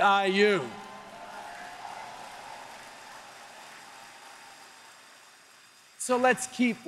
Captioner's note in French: Acclamations et applaudissements